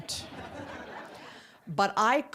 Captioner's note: audience laughing